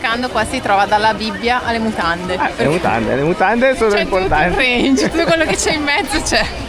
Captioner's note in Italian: risate